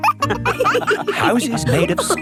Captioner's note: wolves laughing